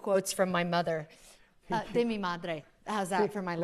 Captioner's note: speaking spanish